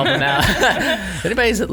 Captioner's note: laughing